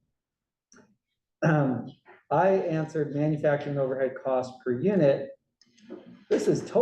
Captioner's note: cough